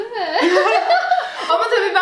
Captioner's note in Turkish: gülüşmeler